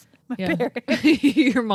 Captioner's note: laughing